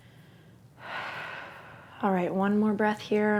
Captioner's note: exhales